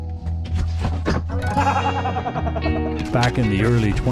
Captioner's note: silly laughter